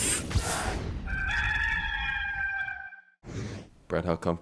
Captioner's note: rooster crows